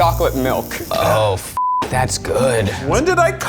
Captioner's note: beep